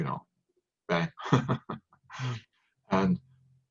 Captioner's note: laughs